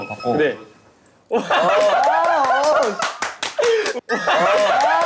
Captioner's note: lol, clapping like a seal